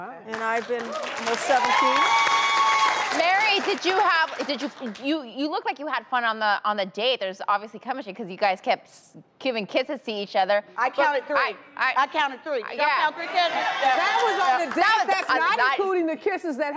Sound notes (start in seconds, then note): 0.8 cheering